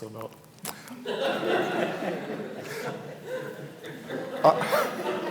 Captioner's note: attendees laughing; everybody laughing